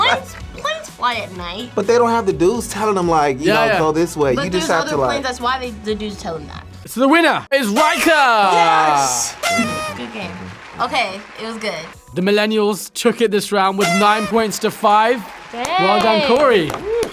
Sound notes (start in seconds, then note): 0.0 laughs; 8.3 horn honks